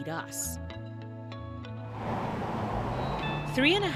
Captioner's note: traffic droning